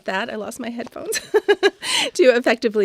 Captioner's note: laughing